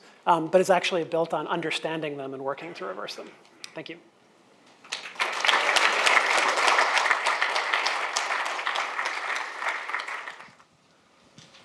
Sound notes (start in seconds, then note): 4.8 audience applauds